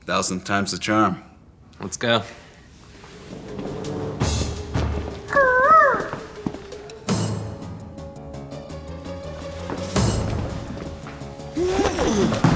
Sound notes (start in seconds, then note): 5.6 peacock call